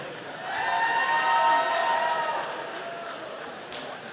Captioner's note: audience cheering